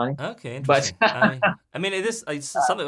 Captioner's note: laughing